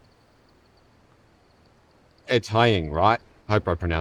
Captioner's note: none